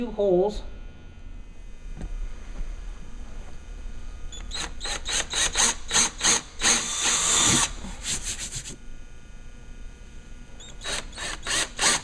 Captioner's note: drilling sounds